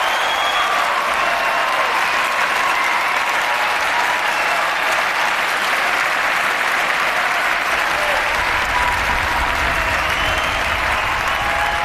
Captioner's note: applause and cheering